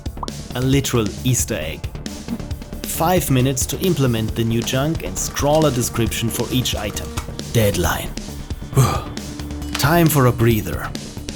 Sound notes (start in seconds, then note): 8.7 oof!